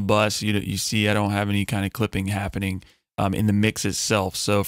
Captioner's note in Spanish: distorsión